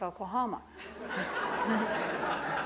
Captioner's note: audience laughing